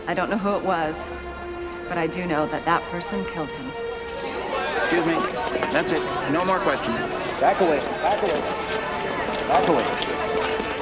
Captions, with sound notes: I don't know who it was, but I do know that that person killed him. (tense music) (chattering) - That's it. No more questions. Back away, back away. Back away.